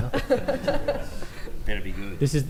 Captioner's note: laughter